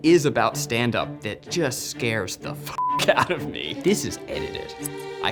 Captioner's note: beep